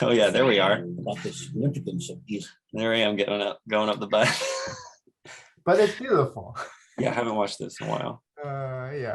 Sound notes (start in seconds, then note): 4.2 chuckles; 4.3 laughs